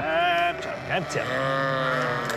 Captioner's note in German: Blöken